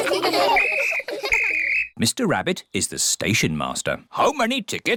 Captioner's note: blows whistle